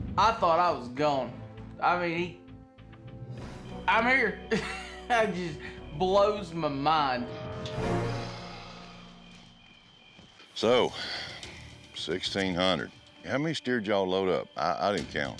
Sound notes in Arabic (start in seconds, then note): 4.4 يضحك